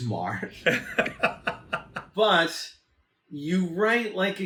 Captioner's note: laughs